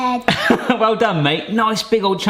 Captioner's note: laughs